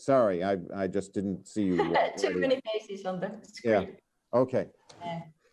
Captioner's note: chuckles